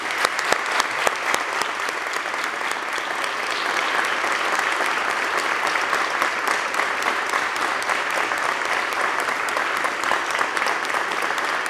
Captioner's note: applause